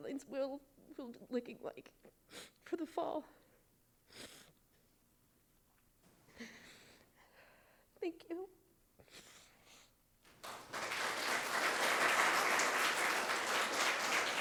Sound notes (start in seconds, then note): 4.4 sobbing; 10.2 audience clapping